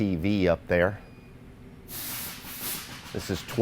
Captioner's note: beeping sound; thumping sound